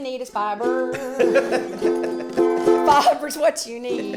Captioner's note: laughs